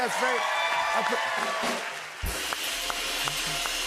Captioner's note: cheers and applause